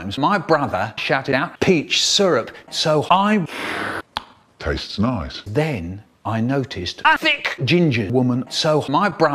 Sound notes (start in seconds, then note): 3.4 hisses like a cat